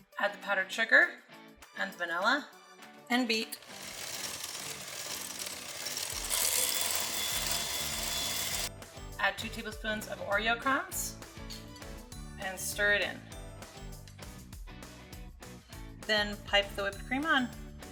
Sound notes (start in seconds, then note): 3.5 beater whirring; 13.3 rhythmic instrumental music